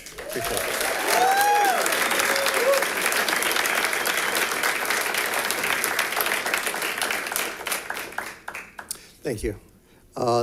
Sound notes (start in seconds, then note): 1.1 audience applauds